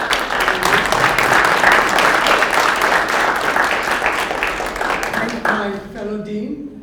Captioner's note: applause